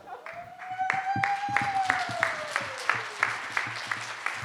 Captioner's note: audience applauding